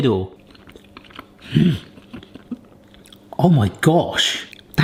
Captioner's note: chewing